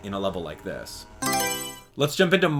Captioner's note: Mario Selection Sound